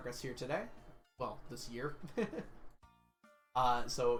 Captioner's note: chuckles